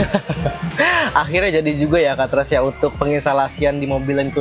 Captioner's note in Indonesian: tertawa